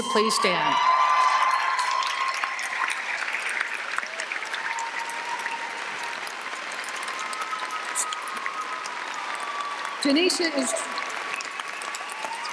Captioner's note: applause and cheering